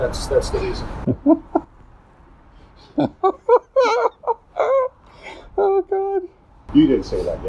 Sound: laughing

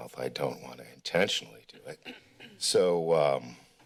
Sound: clearing throat

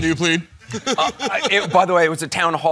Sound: laughing

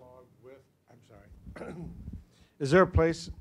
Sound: clears throat

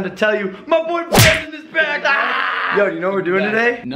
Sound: screeming

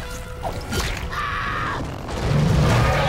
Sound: screaming; roaring

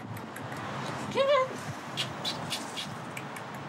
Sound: smooches

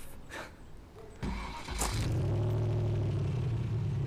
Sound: car engine starts

